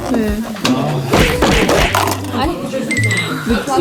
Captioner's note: smack! Smack! Smack!